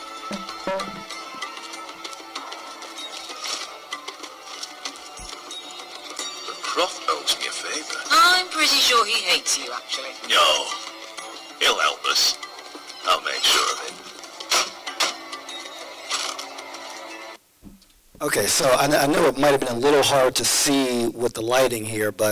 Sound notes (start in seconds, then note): 0.0 arabian music; 6.6 voiceover